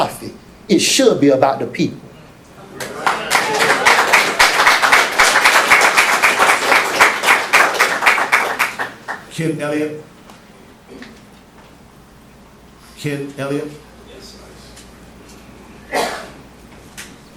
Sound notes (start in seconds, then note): 2.8 applause